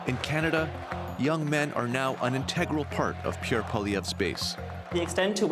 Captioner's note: chanting